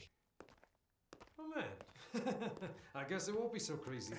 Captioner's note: laughs